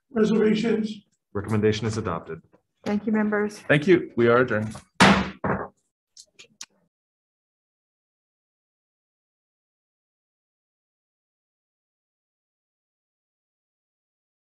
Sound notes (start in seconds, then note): 4.7 table banging; 4.9 gavel banging